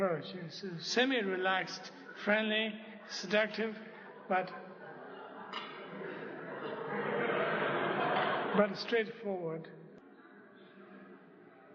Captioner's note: laughter